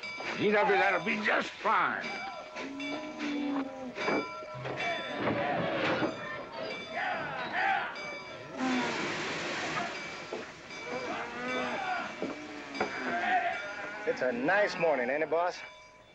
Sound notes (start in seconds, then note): 2.3 station bell ringing; 6.9 men yelling at cattle; 8.5 cattle noises